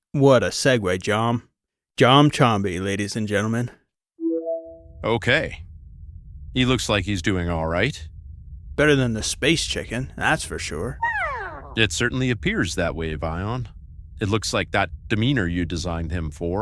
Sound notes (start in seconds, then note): 10.9 Keng begins to chirp